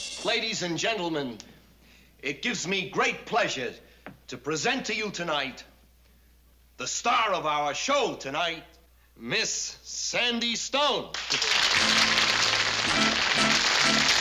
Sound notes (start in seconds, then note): 11.1 applause